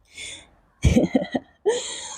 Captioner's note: laughs